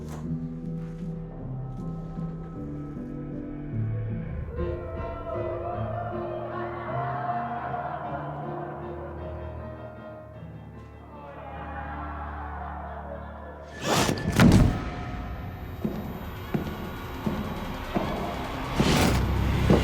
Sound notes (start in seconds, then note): 0.0 piano music playing; 5.3 indistinct chatter; 13.8 thunk; 16.7 footsteps